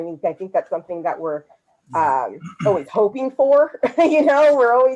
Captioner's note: laughs